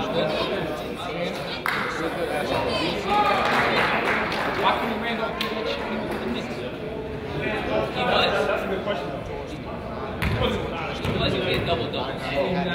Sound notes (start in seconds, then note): 3.0 crowd applauds; 3.6 crowd chatters